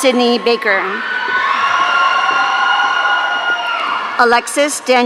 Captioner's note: audience cheering